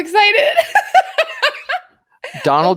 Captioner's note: laughing